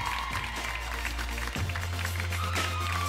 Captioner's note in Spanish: Aplausos